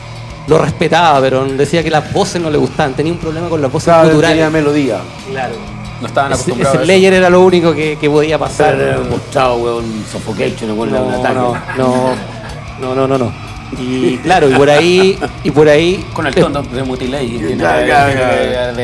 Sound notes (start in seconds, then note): 13.5 laughs